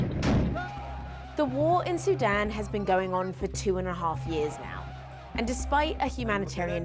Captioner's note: gunshots